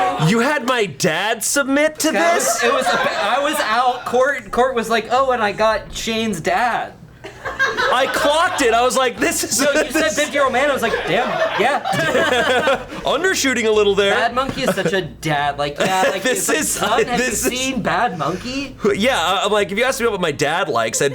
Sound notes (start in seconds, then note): 0.0 colleagues laughing; 2.0 colleagues laughing; 7.2 colleagues laughing; 11.9 and colleagues laughing